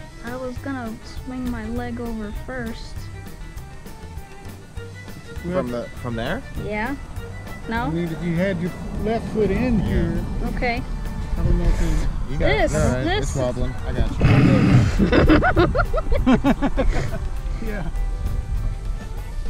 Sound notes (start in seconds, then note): 14.1 all laugh